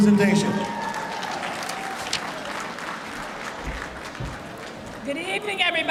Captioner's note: applause